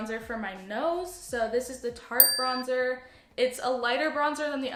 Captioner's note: ding